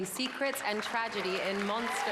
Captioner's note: applause